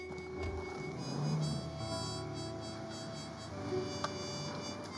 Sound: car revs away

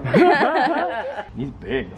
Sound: laughter

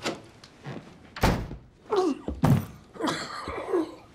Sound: Quentin groaning; door thuds; Quentin groaning

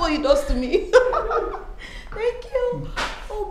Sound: laughs

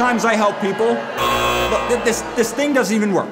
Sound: machine buzzes

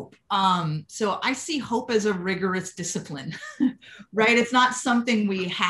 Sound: laughter

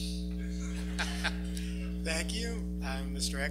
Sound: laughs

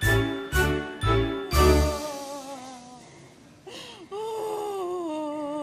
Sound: Esther crying

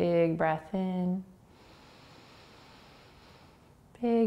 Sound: inhaling

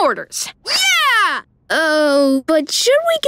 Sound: none

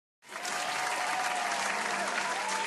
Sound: studio applaus

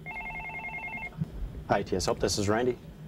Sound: phone rings

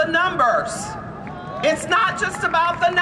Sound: applause and cheering

